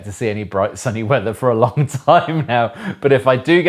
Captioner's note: laughing